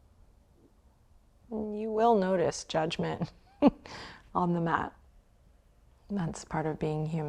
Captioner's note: chuckles